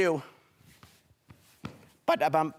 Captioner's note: footsteps